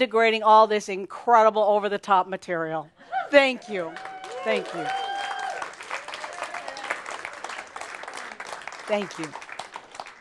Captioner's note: audience applause